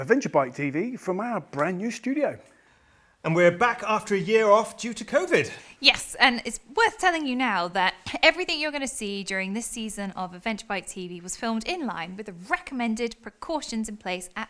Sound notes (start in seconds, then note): none